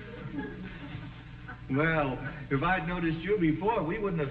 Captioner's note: audience chuckling